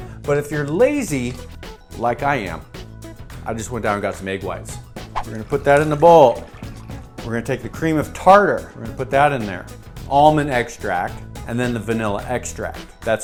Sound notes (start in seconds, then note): 5.0 whoosh; 5.2 liquid pouring